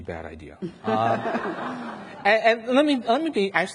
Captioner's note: audience laughs